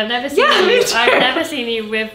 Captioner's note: laughs